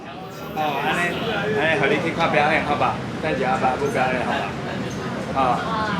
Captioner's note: people speaking Mandarin